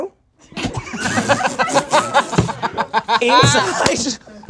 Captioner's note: group laughs